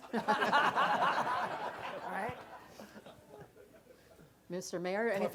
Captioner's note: laughter